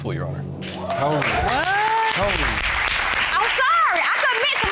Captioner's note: audience applauds